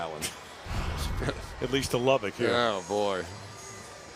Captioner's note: chuckles